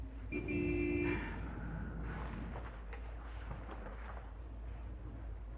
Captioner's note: car horn honks